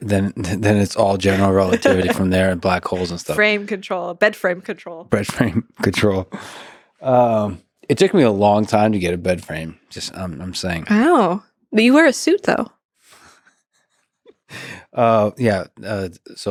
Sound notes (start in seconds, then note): 5.2 chuckles; 14.5 laughs